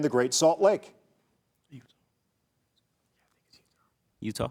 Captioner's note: contestants whispering